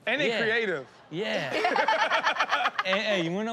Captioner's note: laughter